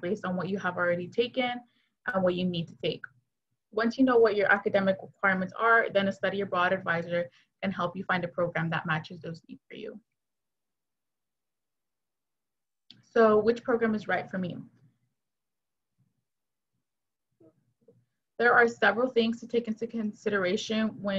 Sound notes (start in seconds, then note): 10.7 silence; 15.0 silence